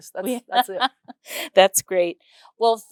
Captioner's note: laughs